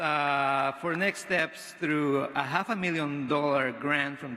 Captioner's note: none